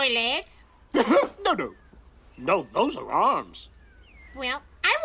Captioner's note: chuckles